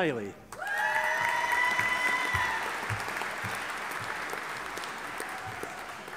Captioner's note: audience applauding and cheering